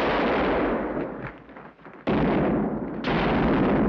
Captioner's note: gun bangs